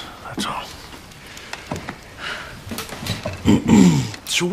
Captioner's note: clears Throat; sighs